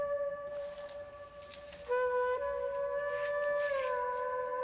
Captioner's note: papers rustle